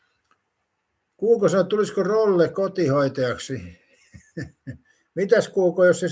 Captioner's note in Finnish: naurua